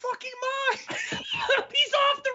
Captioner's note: laughing